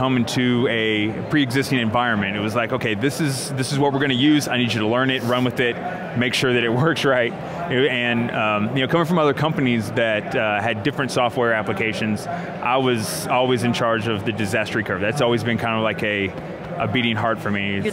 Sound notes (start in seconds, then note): none